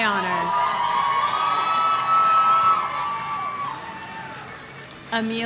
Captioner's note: audience cheering